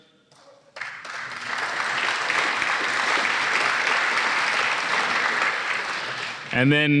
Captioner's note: applause